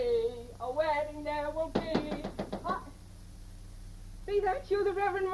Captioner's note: door knocking